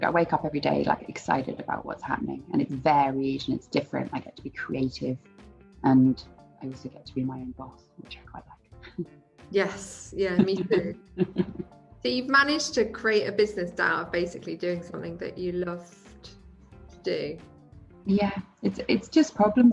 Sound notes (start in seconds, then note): 10.2 laughs